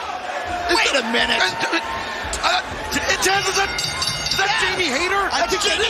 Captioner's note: bell